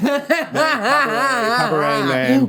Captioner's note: Jinkx laughing